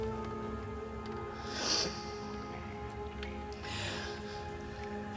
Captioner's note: mother sobbing